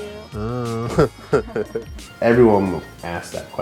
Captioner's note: laughing